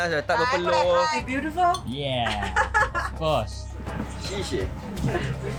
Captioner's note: laugh